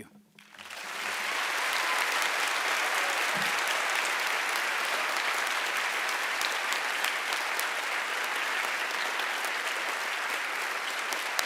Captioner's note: applause